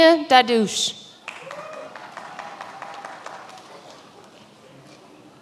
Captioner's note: many applauding